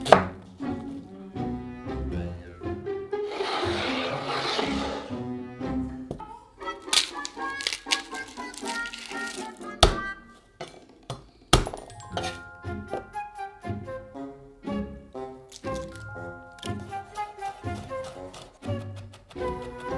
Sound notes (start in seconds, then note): 6.7 garlic paper rustling; 9.8 knife smashing